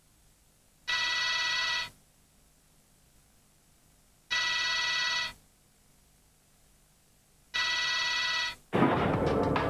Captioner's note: phone ringing; rhythmic music